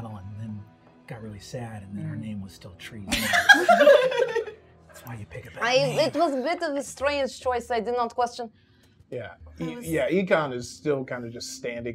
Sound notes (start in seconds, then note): 3.1 gamers laughing